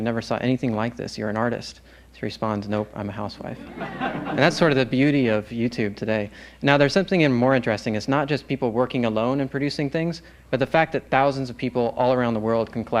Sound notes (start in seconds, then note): 3.4 laughter